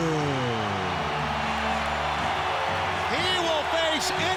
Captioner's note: crowd cheering